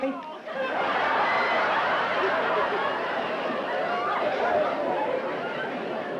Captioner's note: laughter